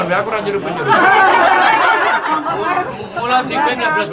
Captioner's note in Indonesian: tertawa